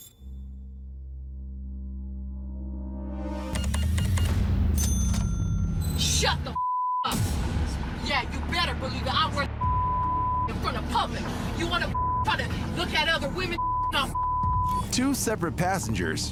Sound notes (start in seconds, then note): 0.0 suspense music; 3.5 beeps; 4.6 register dings